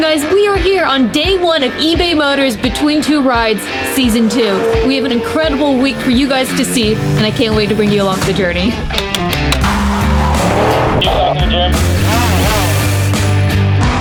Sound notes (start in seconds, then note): 8.9 film slate clapping; 11.8 drone buzzing